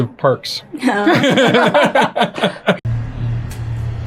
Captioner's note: laughter